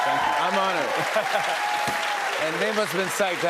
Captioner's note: cheers and applause